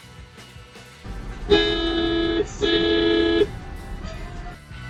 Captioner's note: long honk